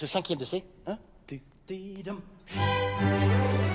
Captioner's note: speaking in French; high energy orchestral music